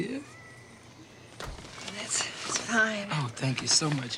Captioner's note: door thuds